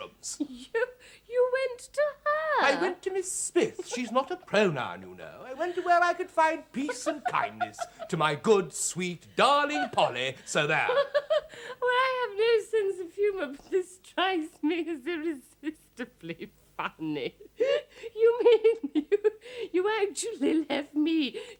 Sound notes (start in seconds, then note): 5.4 Epifania laughs heartily; 9.7 Epifania keeps laughing